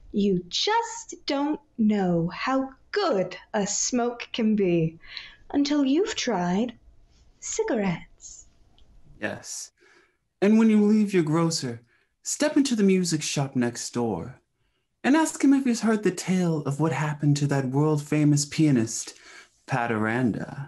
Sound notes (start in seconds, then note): none